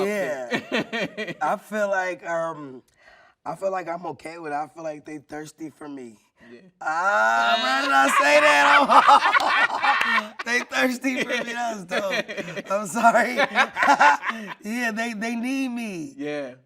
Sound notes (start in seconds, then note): 9.1 everyone laughing